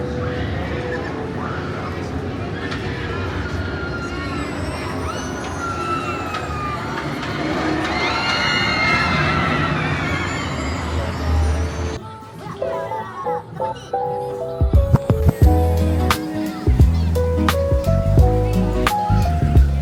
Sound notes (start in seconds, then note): 8.1 scream